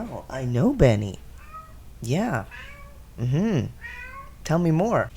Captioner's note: Benny continues meowing; meow